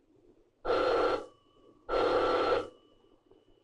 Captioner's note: phone ringing